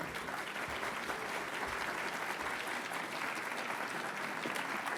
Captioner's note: audience clapping